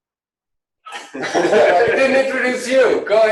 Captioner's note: laughter